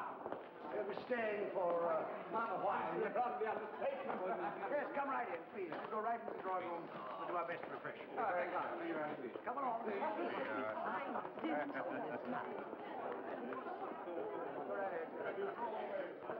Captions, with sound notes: - Yes, come right in, please. We'll go right into the drawing room for my best refreshments. - You're very kind. - I believe I will. - Come along. (crowd chattering) Go right ahead.